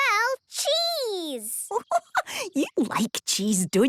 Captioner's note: giggling